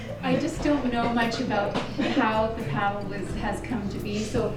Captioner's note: laughter